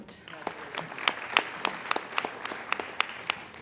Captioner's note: applauding